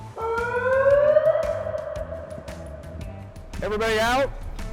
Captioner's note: siren blares